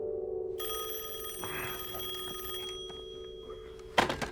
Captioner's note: phone rings